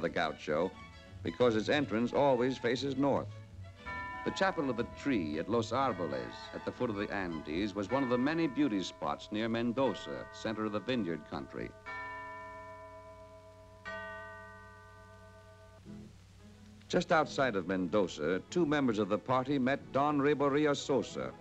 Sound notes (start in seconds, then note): 2.8 church Bell Ringing